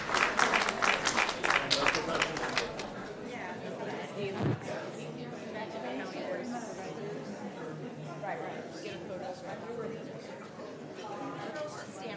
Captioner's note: applause